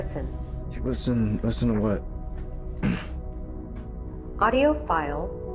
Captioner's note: clears throat